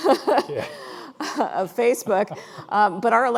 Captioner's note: laughing